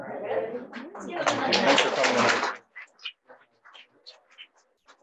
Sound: audience applauding

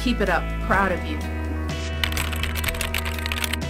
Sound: keyboard Typing Sound Effects

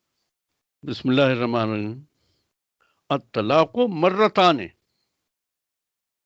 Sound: speaks Arabic

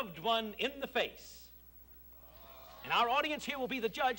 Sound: audience groans

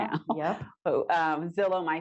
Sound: chuckles

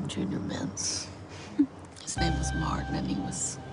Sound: chuckles

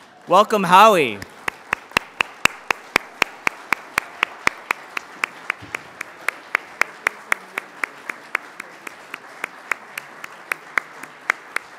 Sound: applause

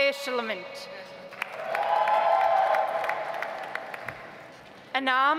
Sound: audience applauds

